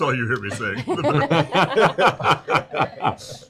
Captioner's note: laughter